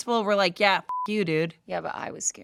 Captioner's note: beep